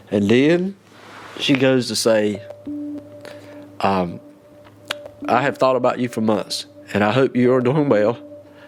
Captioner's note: tearfully